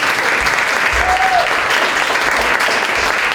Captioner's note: applause